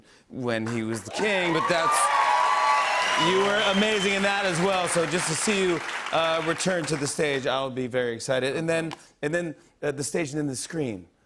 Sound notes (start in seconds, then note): 1.0 cheers and applause